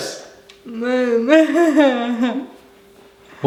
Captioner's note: laughing